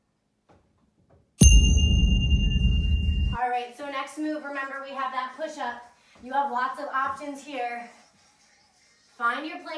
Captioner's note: ding